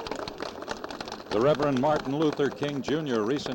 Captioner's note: crowd clapping; reporter in voiceover